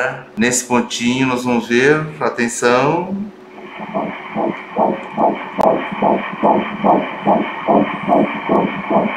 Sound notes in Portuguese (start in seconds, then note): 3.6 batimentos cardíacos